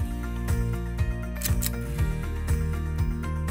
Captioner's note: click